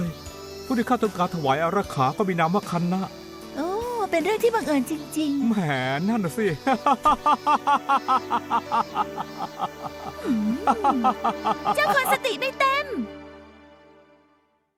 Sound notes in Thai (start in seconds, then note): 6.6 เสียงหัวเราะ